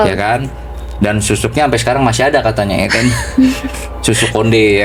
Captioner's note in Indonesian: tertawa